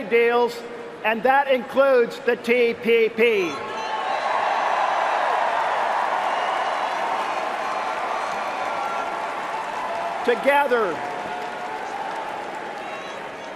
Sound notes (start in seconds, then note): 9.5 cheering and applause